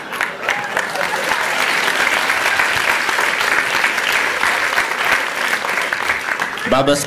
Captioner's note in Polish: Aplauz